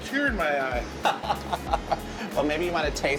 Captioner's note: laughter